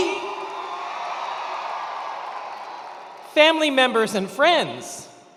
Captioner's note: attendees cheering